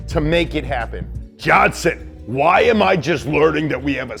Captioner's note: deep voice